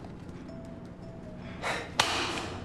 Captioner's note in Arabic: تنهد